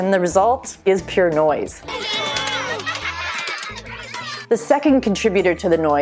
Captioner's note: children's laughter